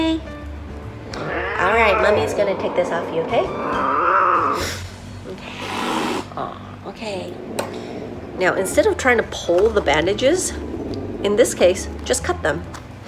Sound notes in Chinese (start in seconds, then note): 5.8 哈氣